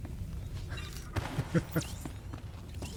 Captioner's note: laughs